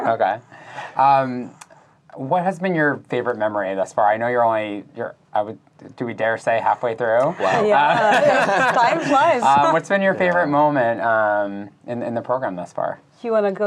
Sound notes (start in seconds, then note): 7.2 laughing